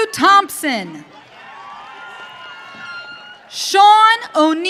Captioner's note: audience cheering